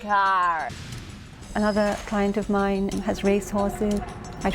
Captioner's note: woman speaking in foreign language